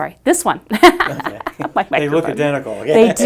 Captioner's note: laughs